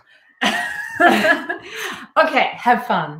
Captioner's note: all laughing